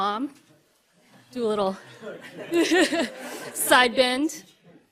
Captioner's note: laughs